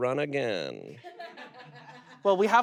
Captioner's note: audience laughs